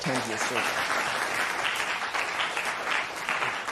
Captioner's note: applause